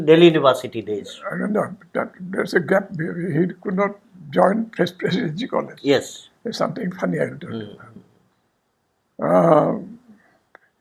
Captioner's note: murmurs